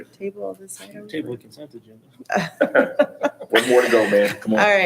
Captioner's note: hushed speaking and chuckling